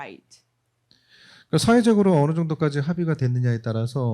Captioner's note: speaking korean